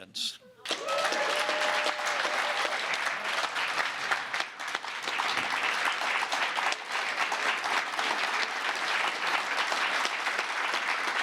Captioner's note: applause